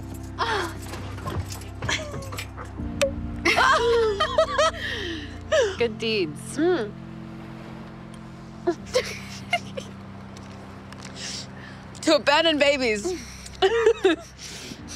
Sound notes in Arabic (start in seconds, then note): 1.8 يضحك; 3.5 تفرقع زجاجة شمبانيا; 5.1 كلاهما يضحك; 8.6 كريستال تضحك; 13.4 يضحك